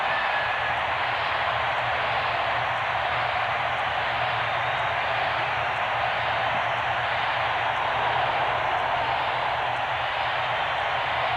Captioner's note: cheering